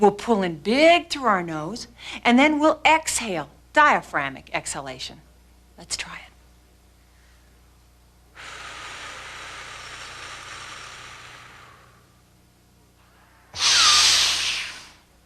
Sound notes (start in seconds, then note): 8.3 breathing; 13.2 breathing